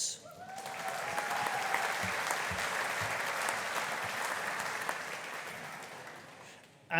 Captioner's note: audience cheering; audience applauding